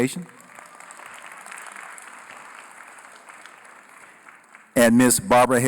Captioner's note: applause